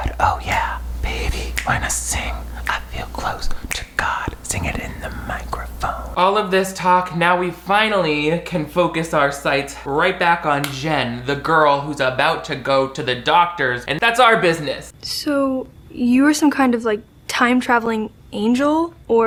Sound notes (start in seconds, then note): 1.5 snaps